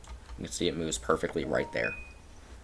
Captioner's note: lg crystal notification sound